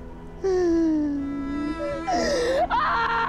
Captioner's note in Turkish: Ağlama sesleri; Haykırma sesleri; Ağlama sesleri